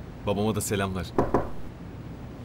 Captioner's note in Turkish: kapı sesi